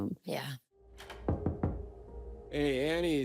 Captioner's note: knocking